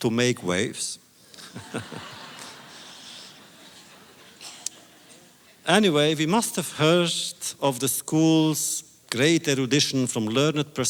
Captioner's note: audience laughter